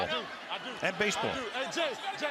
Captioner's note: onfield chatter